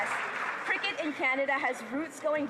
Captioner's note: applause